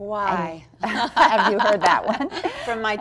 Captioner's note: laughs